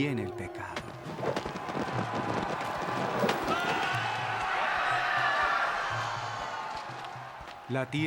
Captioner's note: gente gritando